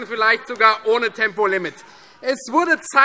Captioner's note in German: Vereinzelter Beifall FreieDemokraten